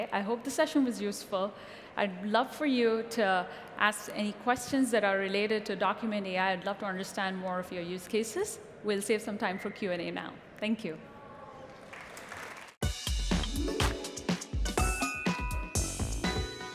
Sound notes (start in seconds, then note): 11.6 applause